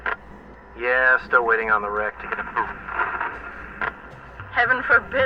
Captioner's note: static